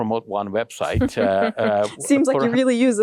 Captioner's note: laughing